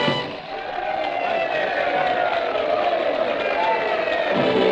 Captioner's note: applause